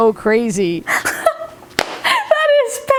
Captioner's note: laughing